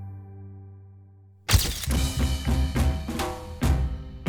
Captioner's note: camera flash pops